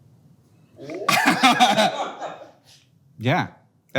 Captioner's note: everyone but Hank chuckles